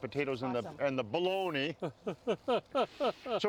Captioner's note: laughing